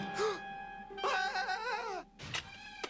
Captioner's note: gasps